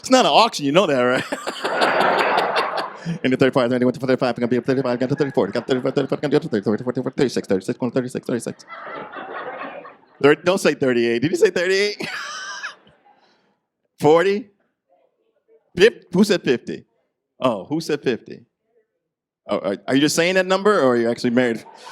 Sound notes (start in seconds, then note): 2.3 imitating auctioneer with increasing numbers; 11.9 laughing